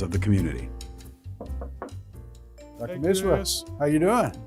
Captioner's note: knocking